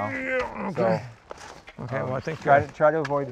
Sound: grunting sound

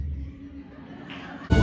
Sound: audience laughter

